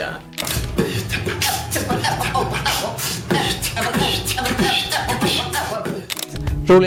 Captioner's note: beatboxing